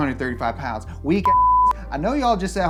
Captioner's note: beep